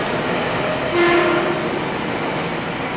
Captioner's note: train Horn